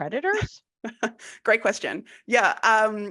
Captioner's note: laughing